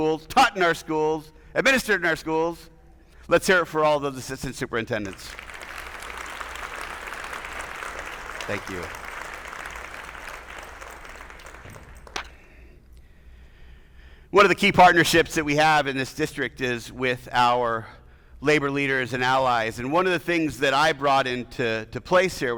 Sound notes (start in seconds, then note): 5.0 attendees applauding